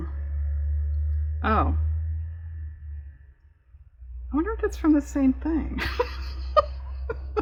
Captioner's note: laughs